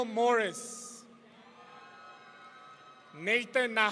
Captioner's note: audience cheering